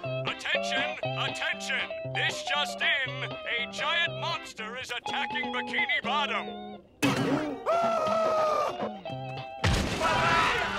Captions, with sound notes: Attention, attention, this just in! A giant monster is attacking Bikini Bottom! [screaming]